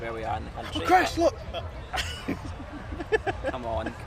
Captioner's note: laughing